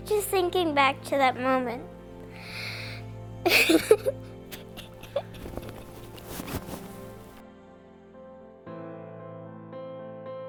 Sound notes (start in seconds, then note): 3.4 sobs; 7.1 uplifting music